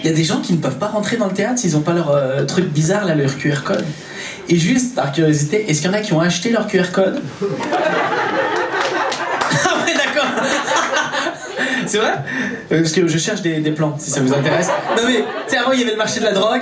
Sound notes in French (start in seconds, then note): 7.3 rires public; 8.4 applaus public